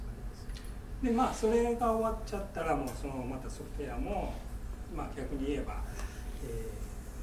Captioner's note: speaking in foreign language